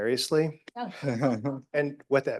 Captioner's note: all giggling